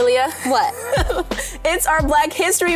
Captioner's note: chuckles